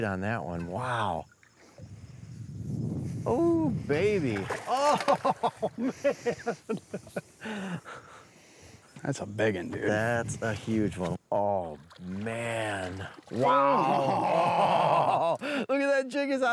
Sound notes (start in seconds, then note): 4.0 water splashes; 4.7 laughs